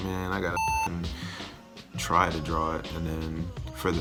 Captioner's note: beep